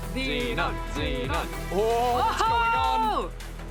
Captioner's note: excited shouting